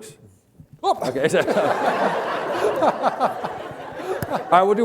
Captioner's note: laughter